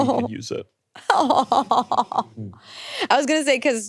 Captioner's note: laughing